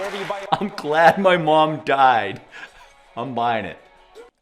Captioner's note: laughs